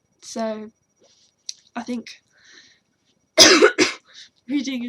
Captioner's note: coughs